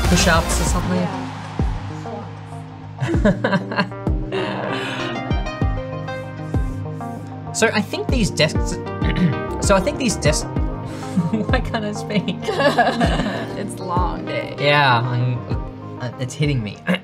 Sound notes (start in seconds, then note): 0.0 upbeat music; 3.0 chuckles